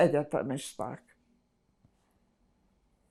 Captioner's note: pauses 6 seconds